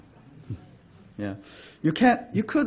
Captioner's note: talking from audience